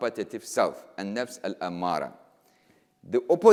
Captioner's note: speaking in foreign language